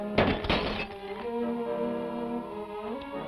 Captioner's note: glass shattering; intense music